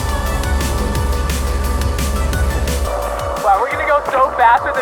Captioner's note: boat motor